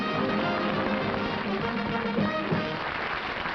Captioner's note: applause